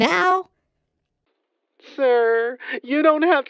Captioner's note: crying